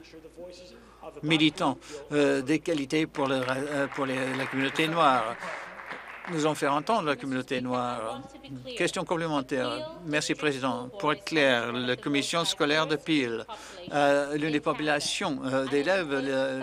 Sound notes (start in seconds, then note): 6.9 applause